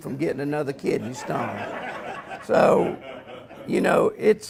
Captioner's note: audience laughs